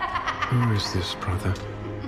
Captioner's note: witch Cackle